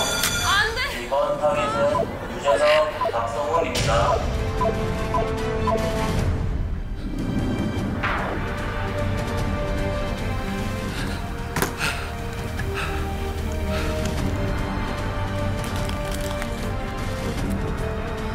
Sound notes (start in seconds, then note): 12.7 panting